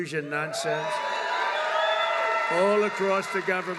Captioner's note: applause